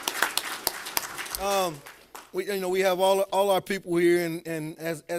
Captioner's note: applause